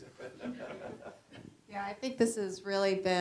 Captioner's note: general laughter